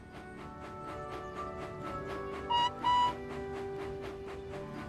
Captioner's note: whistles